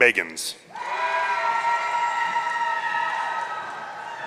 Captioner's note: audience cheering